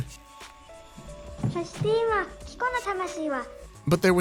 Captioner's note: speaking in Japanese